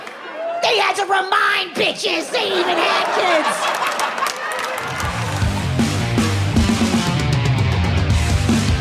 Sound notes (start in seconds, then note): 2.2 audience laughs; 4.8 upbeat music